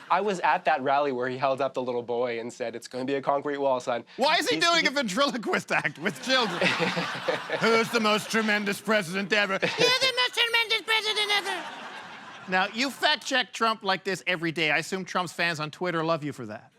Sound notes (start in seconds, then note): 6.5 Trump voice; 9.5 boy voice